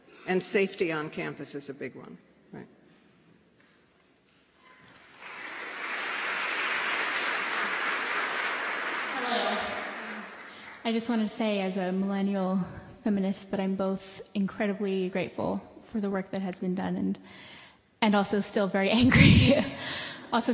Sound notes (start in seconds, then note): 4.8 applause